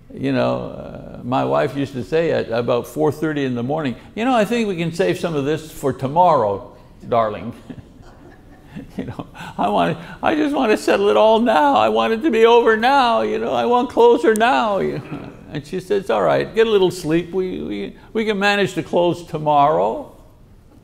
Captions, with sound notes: You know, my wife used to say, at about 4:30 in the morning, "You know, I think we can save some of this for tomorrow, darling." (audience laughs) You know, I just want settle it all now. I want it to be over now. You know, I want closure now. And she says, "All right, get a little sleep. We can manage to close tomorrow."